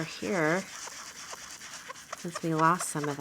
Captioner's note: blending tool scrubbing